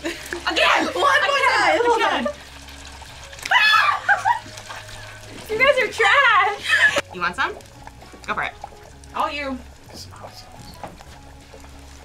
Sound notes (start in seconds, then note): 3.4 screaming and laughing